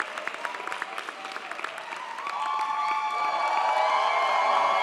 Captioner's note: audience cheers